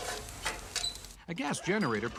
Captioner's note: fire crackles